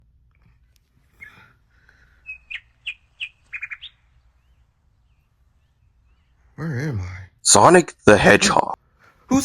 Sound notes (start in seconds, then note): 1.0 birds